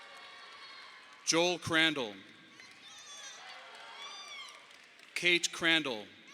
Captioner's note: audience applauding